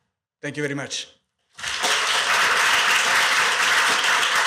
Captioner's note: applause